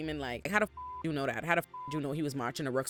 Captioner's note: beep